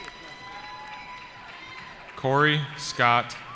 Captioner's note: cheering